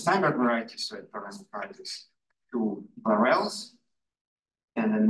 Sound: audio distorting

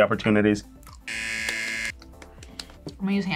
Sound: claps; buzzer

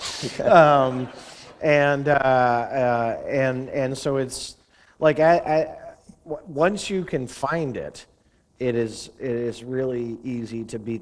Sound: laughter

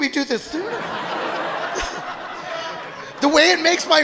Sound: audience laughing

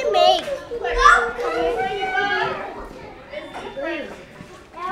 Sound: background chatter

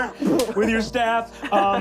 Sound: thump

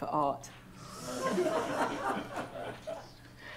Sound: laughter

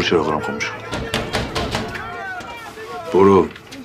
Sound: knocking the door-shouting

